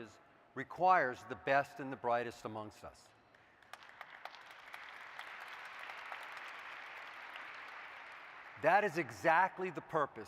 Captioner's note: applause